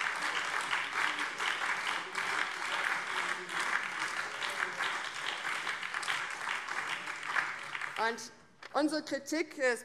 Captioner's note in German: Beifall BÜNDNIS 90/DIE GRÜNEN